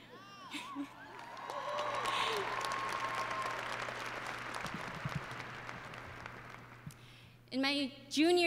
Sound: applause

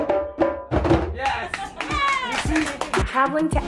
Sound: drumming; clapping

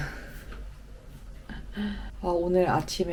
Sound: sigh

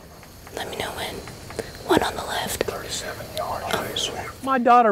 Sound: whispering

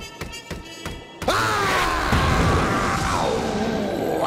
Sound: screaming

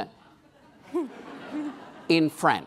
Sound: laughing

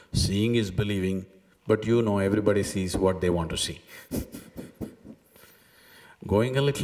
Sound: laughs

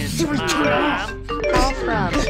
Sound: grumbling

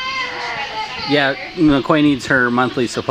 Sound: baby screaming; drowned out by baby screaming

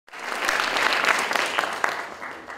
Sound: audience Applauding

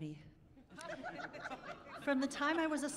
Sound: laughing

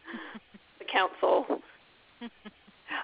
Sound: laughter

